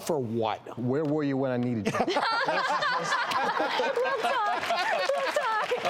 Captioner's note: all laughing; applause